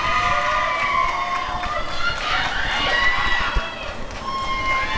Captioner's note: applause and cheering